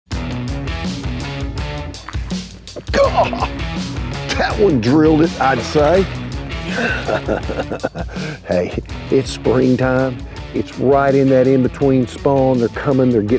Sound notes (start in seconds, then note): 0.0 upbeat rock music; 2.9 chuckle; 6.5 chuckles